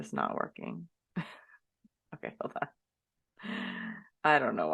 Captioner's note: laughs